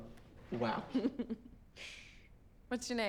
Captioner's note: chuckles